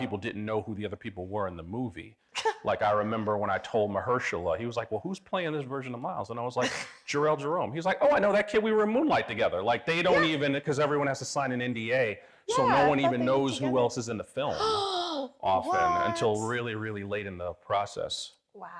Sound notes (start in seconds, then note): 2.4 chuckling; 7.2 scoffing; 15.4 gasps